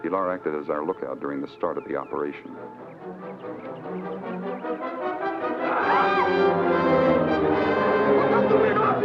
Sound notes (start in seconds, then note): 5.6 Pilar screams; 7.4 adventurous orchestral music